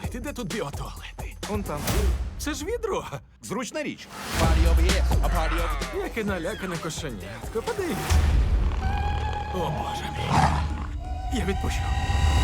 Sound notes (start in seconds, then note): 5.3 cub meows; 8.0 growling; 10.3 snarls